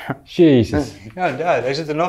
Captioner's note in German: lacht